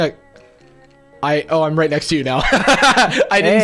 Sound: laughs

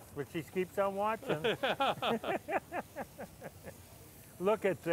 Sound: laughter

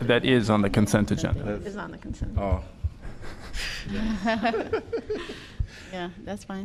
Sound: laughter

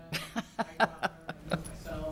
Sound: laughs

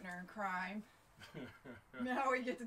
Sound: chuckles

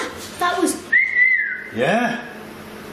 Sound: whistles

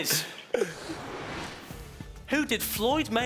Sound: whooshing

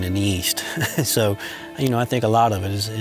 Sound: laughing

